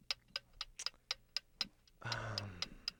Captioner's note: clock ticking